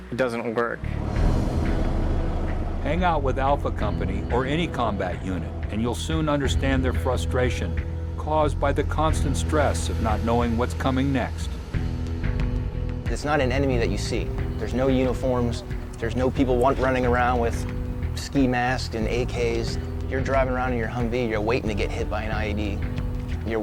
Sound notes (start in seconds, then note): 3.0 voiceover